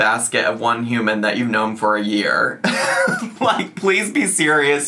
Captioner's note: chuckles